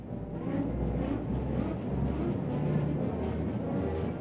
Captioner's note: rumbling